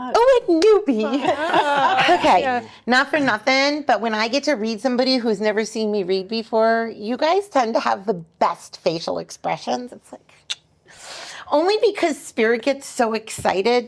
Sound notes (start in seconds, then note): 1.0 laughing; 10.4 kissing